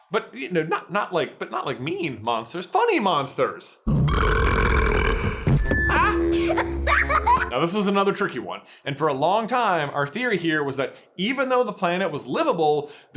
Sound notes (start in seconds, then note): 3.9 burrrrrrrrrrrrrrrrrrrrrrrrrp; 6.3 giggles